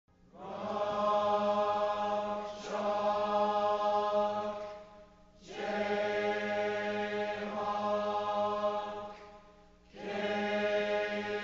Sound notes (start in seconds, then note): 0.1 Students recite the KU chant